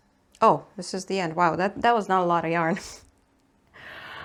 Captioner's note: giggles